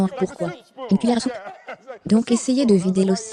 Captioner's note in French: rires